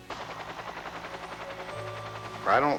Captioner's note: helicopter blades whirring